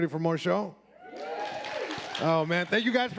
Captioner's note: audience applauding